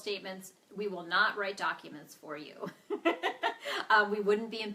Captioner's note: laughing